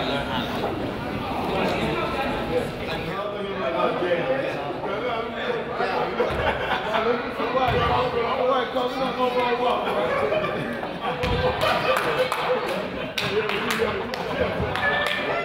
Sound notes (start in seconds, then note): 3.8 crowd chatters and laughs; 11.5 crowd applauds